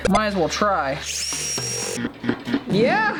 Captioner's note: drill whirring